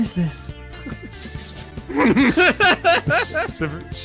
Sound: laughter

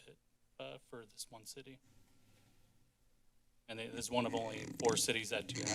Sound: squeak sounds

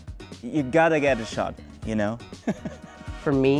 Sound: laughing

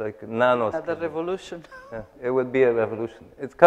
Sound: laughs

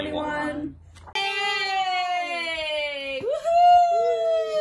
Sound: cheering

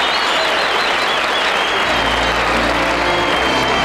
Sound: applause

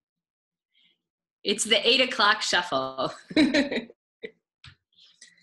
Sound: laughs

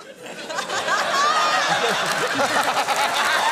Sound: laughter

